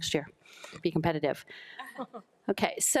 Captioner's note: board members laugh